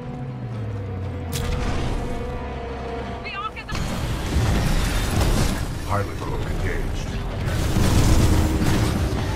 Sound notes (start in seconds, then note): 4.1 radio